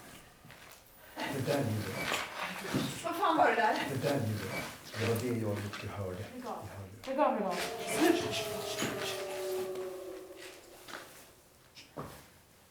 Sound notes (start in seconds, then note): 7.5 animalistic scream